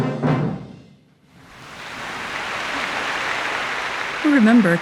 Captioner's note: audience clapping